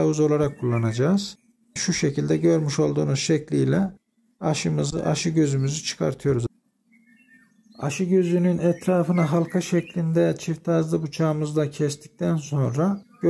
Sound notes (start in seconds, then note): 6.7 bird voice